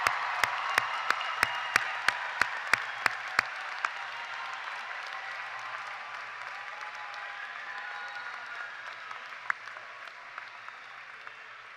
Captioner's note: cheers and applause